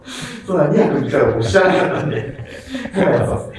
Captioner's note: laughing